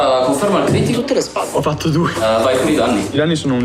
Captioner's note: laughs